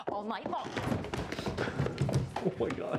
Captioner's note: Claire thumps